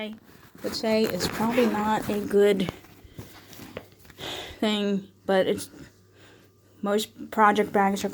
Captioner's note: unzipping